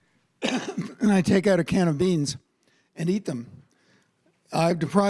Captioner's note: coughs